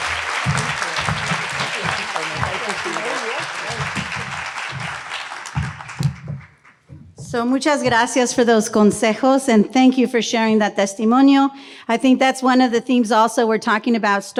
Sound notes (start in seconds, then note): 0.0 audience applauding; 7.5 speaks in foreign language